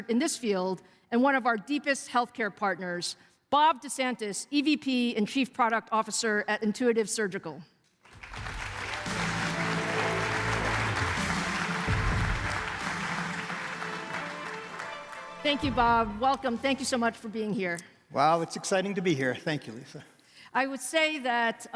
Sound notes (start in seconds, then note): 12.9 applause